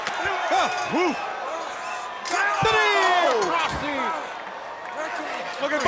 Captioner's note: applause